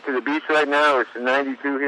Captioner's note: laughs